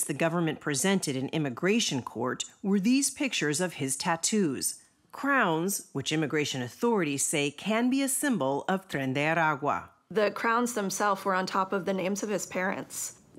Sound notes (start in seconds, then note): none